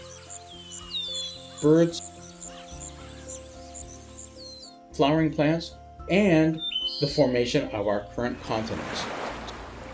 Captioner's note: chirping